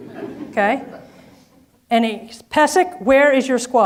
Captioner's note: audience laughs